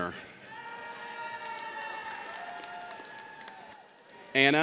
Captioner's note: audience cheers